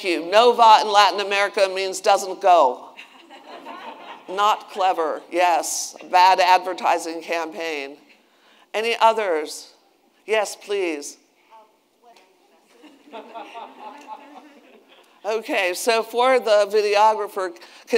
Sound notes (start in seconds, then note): 3.0 attendees laughing